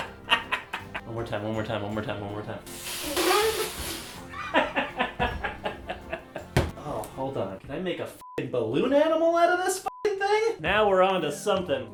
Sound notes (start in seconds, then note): 0.2 laughs; 4.3 laughs